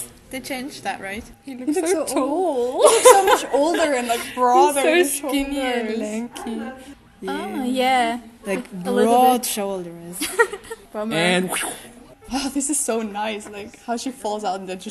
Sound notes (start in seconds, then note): 11.5 sound effect